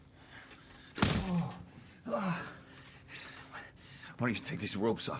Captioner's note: hand slaps